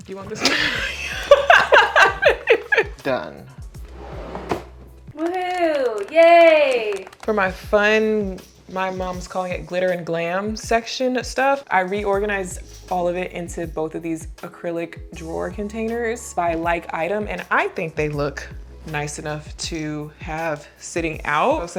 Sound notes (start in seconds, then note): 0.4 laughs; 3.9 drawer whooshing